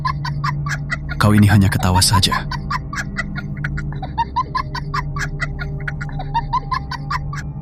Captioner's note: laughing